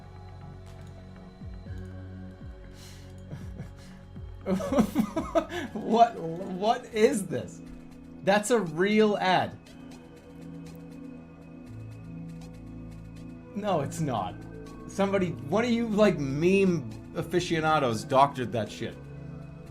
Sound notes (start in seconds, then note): 4.4 laughing